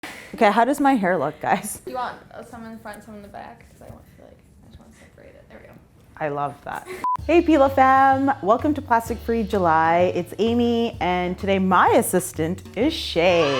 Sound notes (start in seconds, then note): 7.0 beep